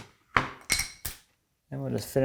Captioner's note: plank on desk clacking; spacer on desk clattering